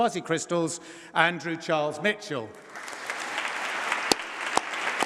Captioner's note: applause